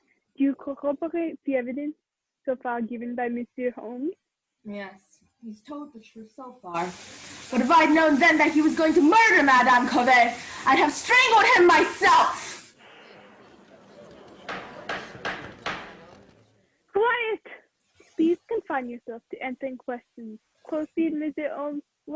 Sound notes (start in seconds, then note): 14.4 rap of gavel